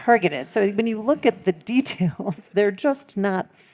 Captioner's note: laughing